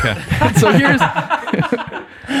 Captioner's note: innocent laughing